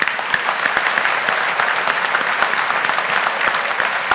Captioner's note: audience applauding